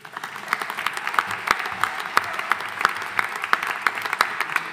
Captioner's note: audience applauding